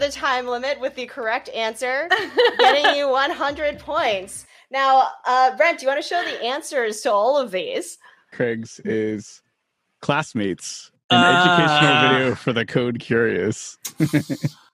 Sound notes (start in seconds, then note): 11.1 groans; 13.9 laughs